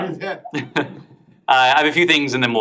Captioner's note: laughter